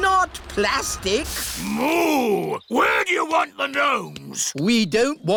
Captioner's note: boos